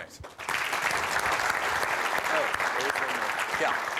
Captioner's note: applause